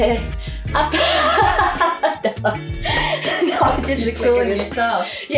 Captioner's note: laughing